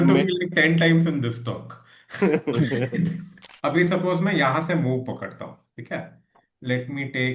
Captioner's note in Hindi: हंसी